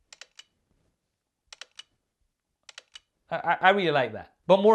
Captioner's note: camera clicking